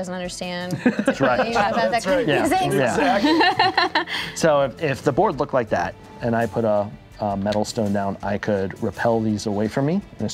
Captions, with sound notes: that doesn't understand. (laughing) - So if the board looked like that and I put a metal stone down, I could repel these away from me